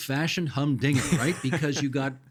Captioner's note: chuckling